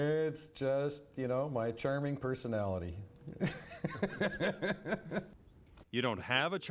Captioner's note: laughs